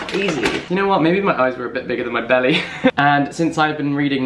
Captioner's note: laughs